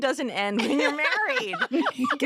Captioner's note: laughter